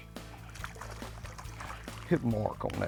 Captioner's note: upbeat music; water splashes